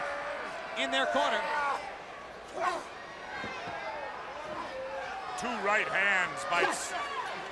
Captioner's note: crowd chatter